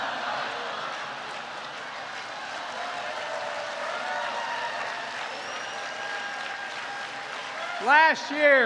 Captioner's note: laughter